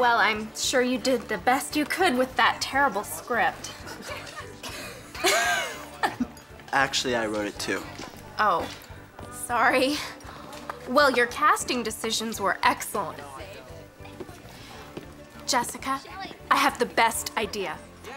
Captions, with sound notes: Well, I'’m sure you did the best you could with that terrible script. [Lila and Renata laugh] Actually I wrote it too. Oh, sorry. Well, your casting decisions were excellent. Jessica, I have the best idea.